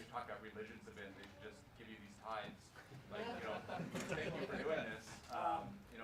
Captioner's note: laughs